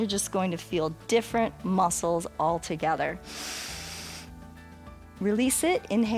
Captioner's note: inhales